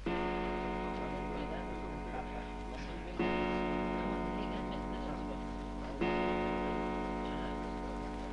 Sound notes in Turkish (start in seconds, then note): 0.0 Fonda duvar saatinin sat başı vuruşları